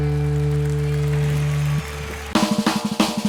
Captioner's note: applause